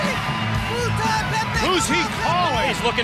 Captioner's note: speaking in foreign language